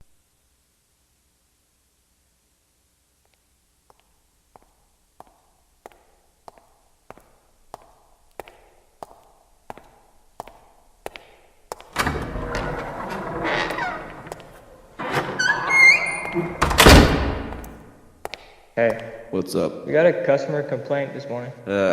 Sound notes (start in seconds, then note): 3.4 footsteps; 11.9 door opens; 15.0 door closes